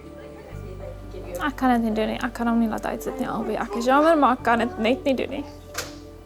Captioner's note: speaking in foreign language